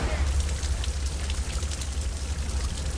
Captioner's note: heavy rain